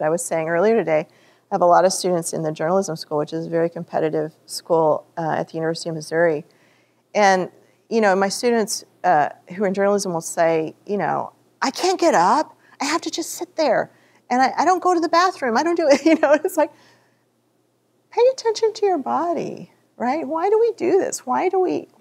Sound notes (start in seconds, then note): 17.2 laughter